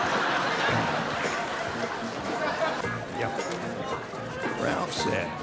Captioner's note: laughter